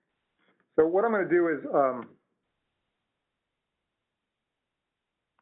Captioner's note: voiceover